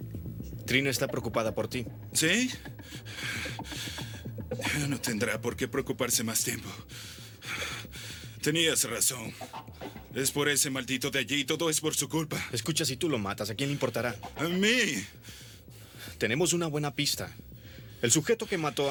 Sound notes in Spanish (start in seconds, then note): 2.5 ofegante